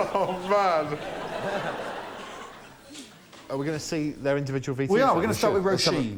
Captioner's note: laughter